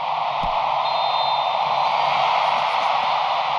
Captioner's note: whistles